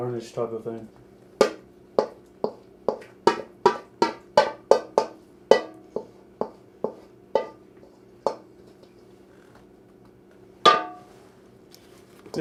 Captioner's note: wooden spoon in metal bowl clang